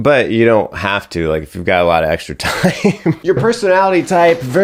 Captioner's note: laughs